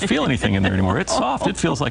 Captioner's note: laughing